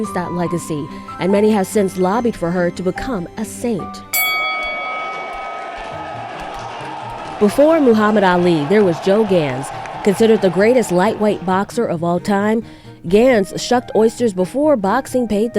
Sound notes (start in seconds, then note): 6.7 bell dings; 6.7 crowd cheering